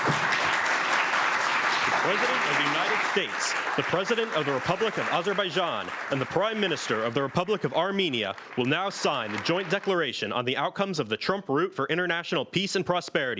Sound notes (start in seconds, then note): 3.1 applause